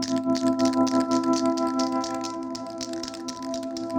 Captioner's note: spray can rattles